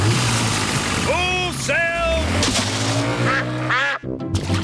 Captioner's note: engine starts